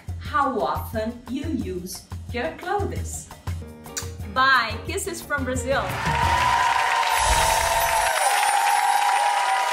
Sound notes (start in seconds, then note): 3.9 kisses; 5.9 audience cheers